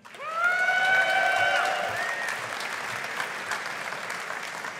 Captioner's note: audience applauding